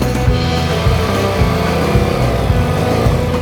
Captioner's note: engine revs